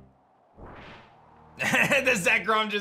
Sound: chuckles

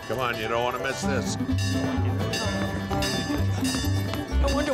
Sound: bell clanging

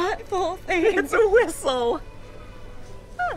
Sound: laughing

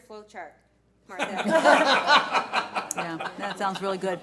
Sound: board laughs

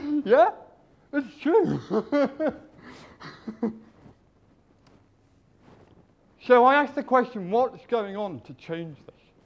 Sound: laughs

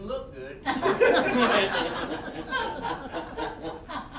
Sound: all laughing

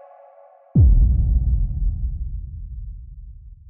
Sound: boom

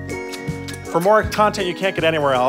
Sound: kissing

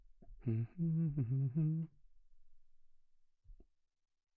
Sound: humming softly

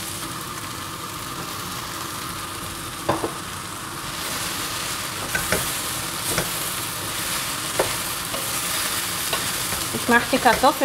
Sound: kitchen noises: sizzling, rustling, clattering

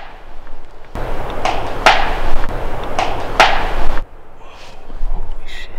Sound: knocking sound

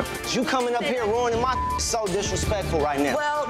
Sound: beep

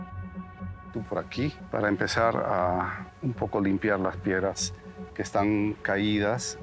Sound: man speaking in foreign language

